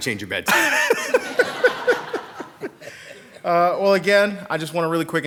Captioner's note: people laughing